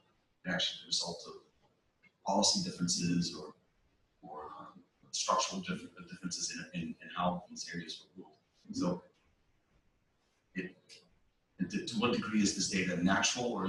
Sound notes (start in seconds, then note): 9.1 pause